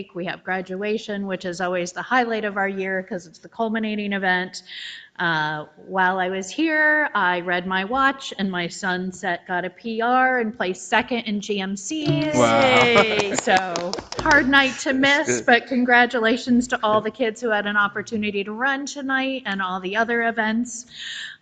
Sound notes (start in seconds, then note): 12.0 people clap